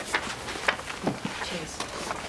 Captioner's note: papers shuffling